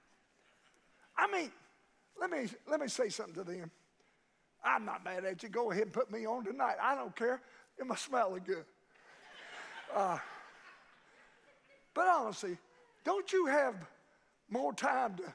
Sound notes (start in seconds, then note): 8.9 congregation laughs